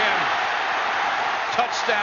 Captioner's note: applause